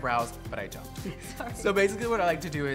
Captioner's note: laughs